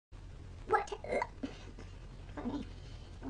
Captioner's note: burps